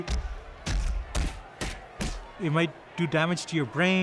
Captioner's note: punching sounds